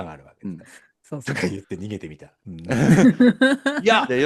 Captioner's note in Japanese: 笑い; 笑い